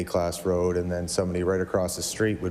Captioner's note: none